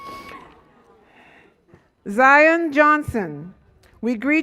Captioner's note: none